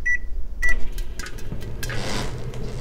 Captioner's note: beeping; microwave whirring; creaking